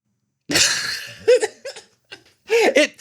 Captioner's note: laughs